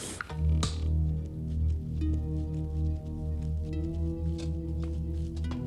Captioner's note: can crunching; footsteps thudding; dramatic music